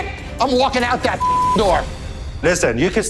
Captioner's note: beeps